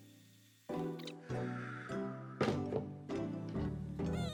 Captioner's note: deep sigh